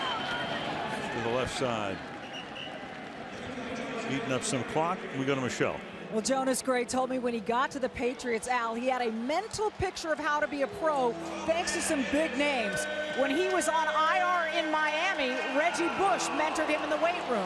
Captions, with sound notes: To the left side. [whistle] [pa announcement] Eating up some clock. We go to Michele. Well, Jonas Gray told me when he got to the Patriots, Al, he had a mental picture of how to be a pro thanks to some big names. When he was on IR in Miami, Reggie Bush mentored him